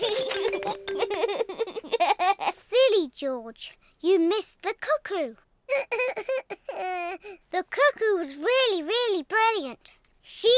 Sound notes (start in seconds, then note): 0.1 laughs; 5.7 sobs